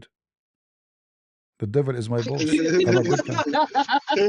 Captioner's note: ketawa